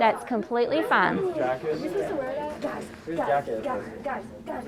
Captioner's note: group chattering